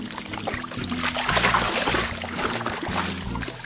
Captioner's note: water splashing